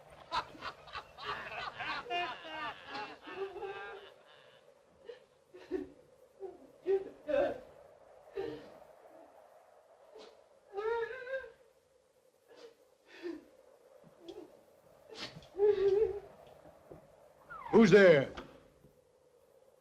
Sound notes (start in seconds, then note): 0.0 eerie weeping sound; 0.0 men laughing; 5.0 eerie weeping sound; 17.5 door squeaks open